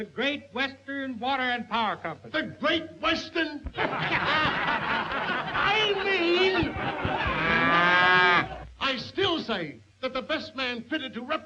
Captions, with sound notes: - The Great Western Water and Power Company. - The Great Western... (all laughing) I mean... (cattle lowing) I still say that the best man fitted